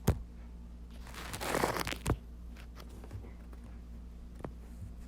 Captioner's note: mic rustling